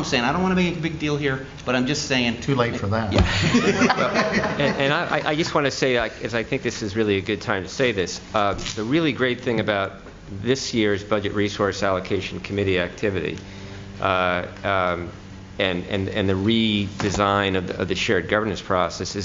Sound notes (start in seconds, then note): 3.2 laughter